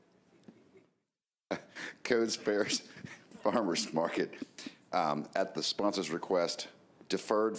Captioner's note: laughter